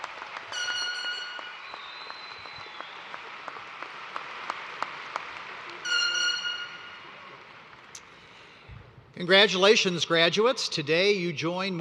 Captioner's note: cheers and applause